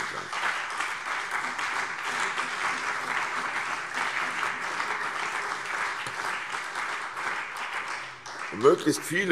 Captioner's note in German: Beifall CDU und BÜNDNIS 90/DIE GRÜNEN